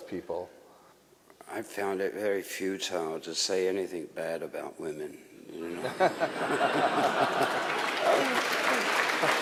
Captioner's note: laughter/applause